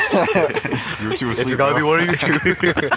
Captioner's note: laughter